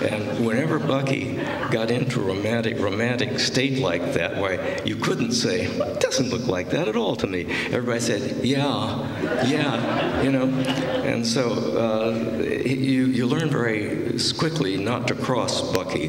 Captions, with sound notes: And whenever Bucky got into a romantic state like that, well you couldn't say, "Well, it doesn't look like that at all to me!" Everybody said, "Yeah." "Yeah." You know? [laughter] You learn very quickly not to cross Bucky.